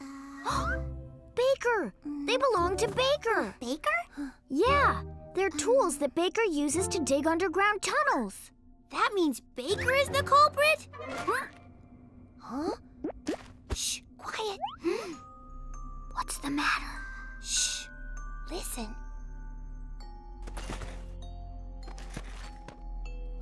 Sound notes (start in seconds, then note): 1.0 gasps; 14.8 both gasp softly; 15.9 whispers; 20.3 rustling